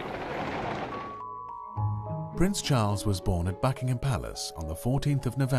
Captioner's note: voiceover